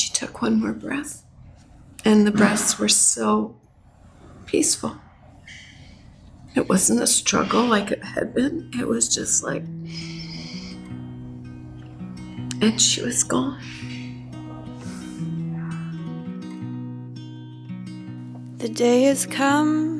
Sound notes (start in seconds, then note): 9.8 inhales; 15.8 gentle guitar music